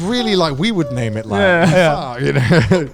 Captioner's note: laughing; all laughing